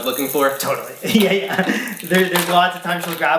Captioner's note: laughs